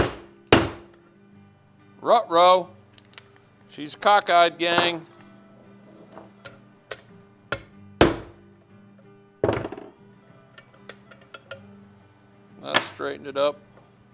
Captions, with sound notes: Ruh-roh! She's cockeyed, gang. (hammer tapping) That straightened it up.